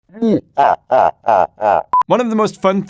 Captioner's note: boisterous laugh